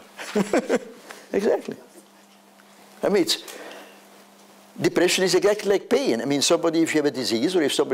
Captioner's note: laughs